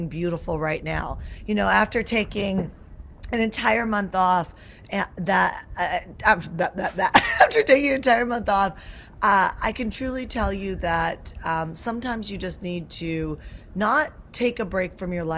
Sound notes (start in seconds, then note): 6.6 coughs